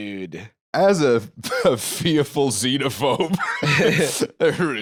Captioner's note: laughs